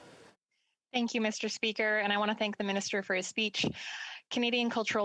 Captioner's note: speaking French